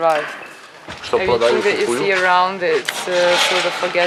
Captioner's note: speaks in foreign language